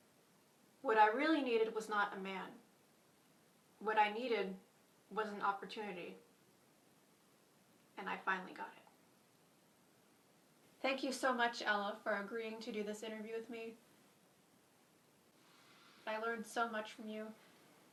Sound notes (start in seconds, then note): none